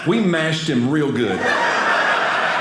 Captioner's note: audience laughing